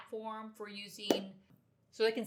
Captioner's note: hands clap